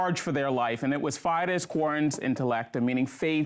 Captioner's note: speaks in foreign language